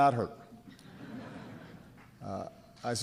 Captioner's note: laughter